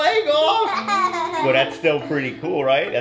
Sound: laughing

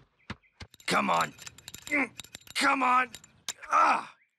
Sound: grunting

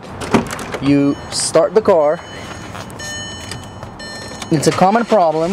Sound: beeping

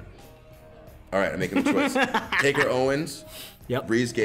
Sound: laugh

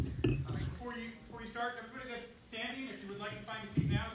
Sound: voiceover

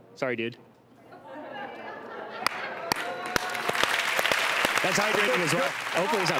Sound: audience groaning, applauding

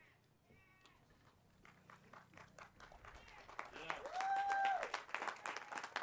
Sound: applause

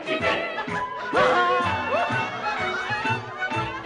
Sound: all laughing

